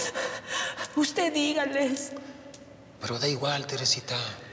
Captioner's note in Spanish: Sollozos